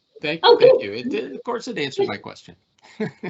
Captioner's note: laughing